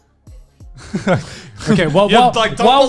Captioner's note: laughing